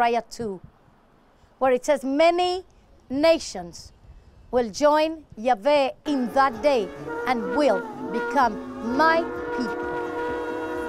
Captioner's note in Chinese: 吹號角